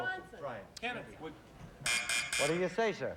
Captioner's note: buzz buzz buzz